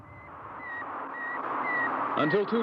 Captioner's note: beeping